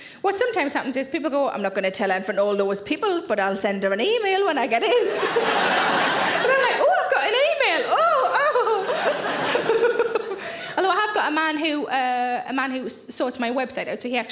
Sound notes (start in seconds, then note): 4.8 audience laughing; 9.2 laughs; 9.7 audience laughing